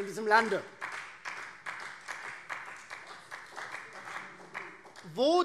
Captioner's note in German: Beifall Freie Demokraten